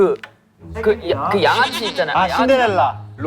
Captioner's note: mispronunciation